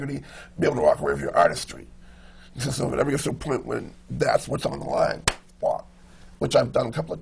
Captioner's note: claps